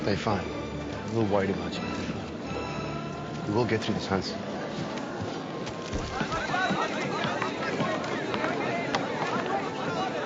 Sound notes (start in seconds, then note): 6.8 reporters call out